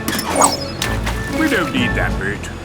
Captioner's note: splashes